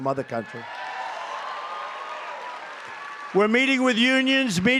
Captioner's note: applause